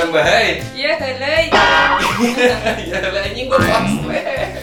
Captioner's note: sounds like alien talking